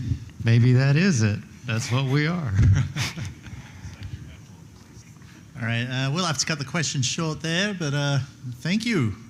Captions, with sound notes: - Maybe that is it. That's what we are. [LAUGHTER] - All right, we'll have to cut the question short there, but thank you.